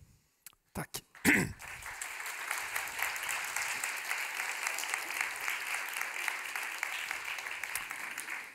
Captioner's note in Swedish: Applåder från publiken